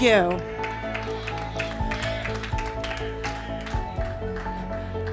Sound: congregation clapping

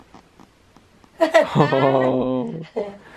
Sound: laughter

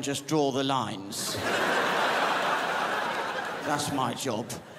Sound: crowd laughs

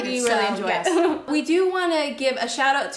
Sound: laughs

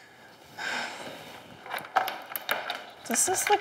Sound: sighs

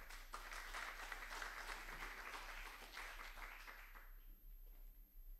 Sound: applause

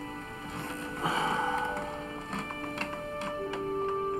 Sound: sighs

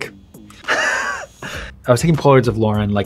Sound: laughing

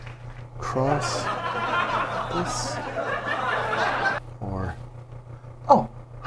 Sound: laughter

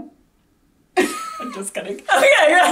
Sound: laughs

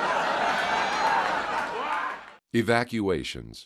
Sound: laughter

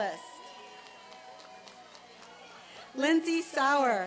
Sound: applause and cheering

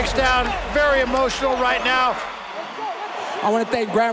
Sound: cheers

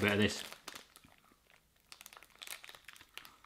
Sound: chewing

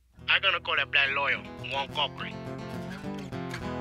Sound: voiceover

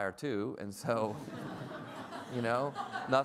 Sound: everyone laughs

